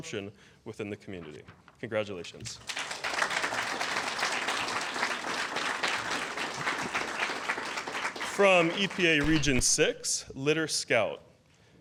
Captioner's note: applause